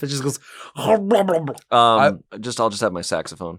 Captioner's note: eating sounds